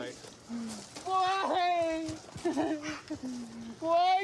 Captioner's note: sobs